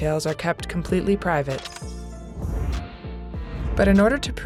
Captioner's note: transition whooshes